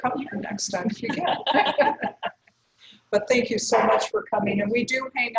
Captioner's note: laugh